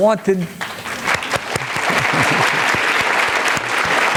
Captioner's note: applause